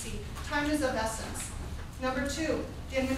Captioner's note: none